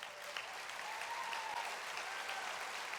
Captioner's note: applause